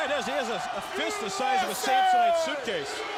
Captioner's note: crowd chatter